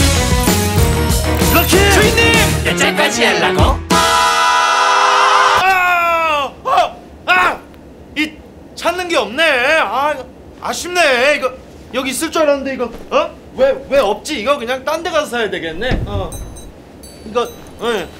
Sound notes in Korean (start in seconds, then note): 4.1 괴성; 4.1 다가오는 자동차 경적